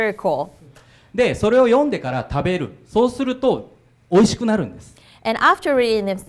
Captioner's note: speaking foreign language